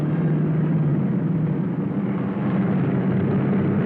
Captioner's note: cars revving